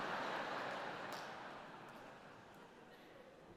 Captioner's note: audience laughs